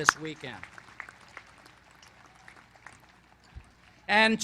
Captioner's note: applause